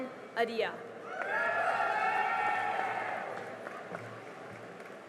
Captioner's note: cheering and applause